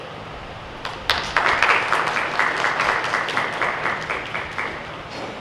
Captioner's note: audience applauds